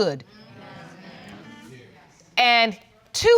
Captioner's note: audience murmuring